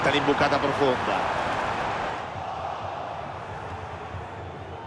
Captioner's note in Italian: Applauso